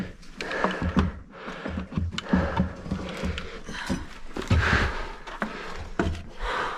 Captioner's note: heavy breathing; shuffling and rattling